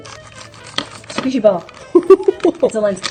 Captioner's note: laughter